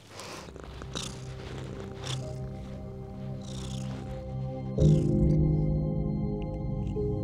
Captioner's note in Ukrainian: невдоволено муркоче